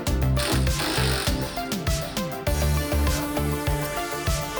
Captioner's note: drilling sound